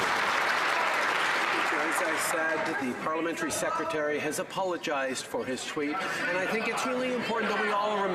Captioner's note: some Applause